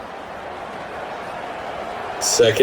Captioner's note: crowd Noises